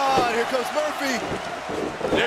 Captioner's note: crowd cheering